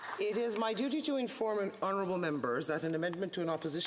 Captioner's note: applause